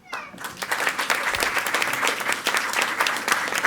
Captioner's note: all applauding